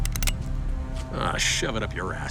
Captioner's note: gun cocking